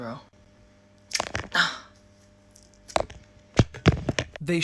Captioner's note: groaning